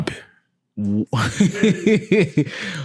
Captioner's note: laughing